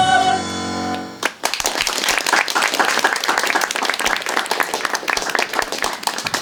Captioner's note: applause